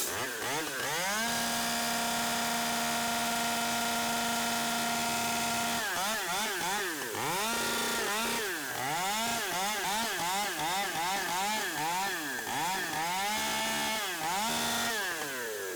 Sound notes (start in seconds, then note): 1.4 saw buzzing